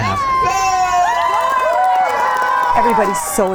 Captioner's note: spectators cheering